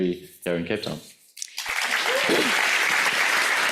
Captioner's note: audience applauds